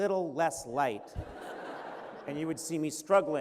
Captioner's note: laughter